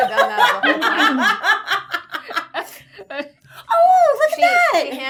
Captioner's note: laughing